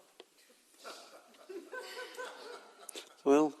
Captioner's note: audience laughing